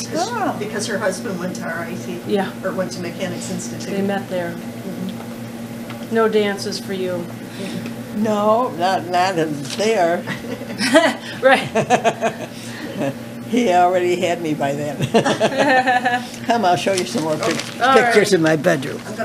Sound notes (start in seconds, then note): 10.3 laughter